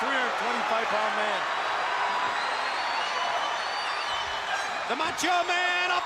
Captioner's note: crowd cheering